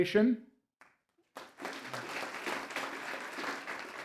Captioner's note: applause